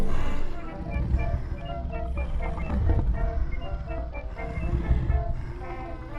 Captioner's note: cheerful 1920's music; monster rasping softly